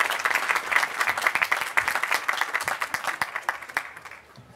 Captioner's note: applause